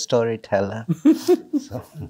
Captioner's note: chuckles